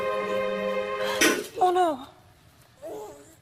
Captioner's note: dull thud